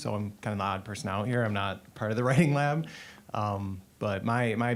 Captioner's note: chuckling